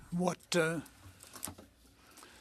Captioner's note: speaking French